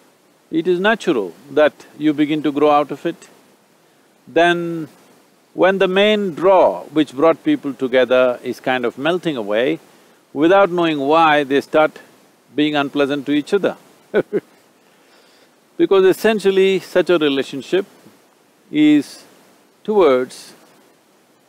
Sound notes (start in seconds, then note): 14.1 laughs